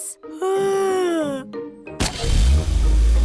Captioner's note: yawns